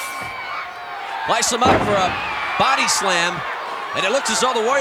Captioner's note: audience cheering